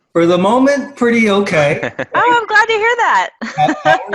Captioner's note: laugh